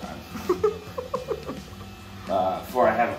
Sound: laughs

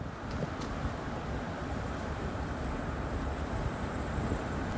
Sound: crickets chirping

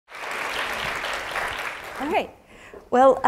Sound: applause

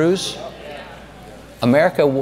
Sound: crowd

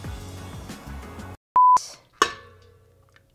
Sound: beeps

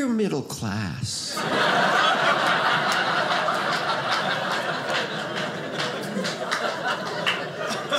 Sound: audience laughing

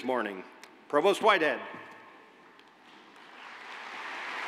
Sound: cheers and applause

